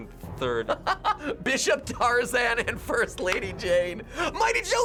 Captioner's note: laughs